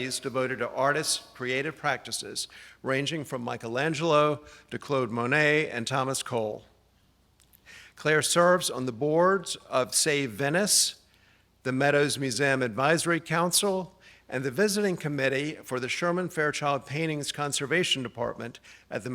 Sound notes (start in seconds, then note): none